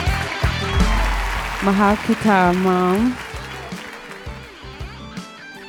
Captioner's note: speaking foreign language